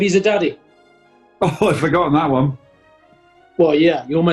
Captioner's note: chortling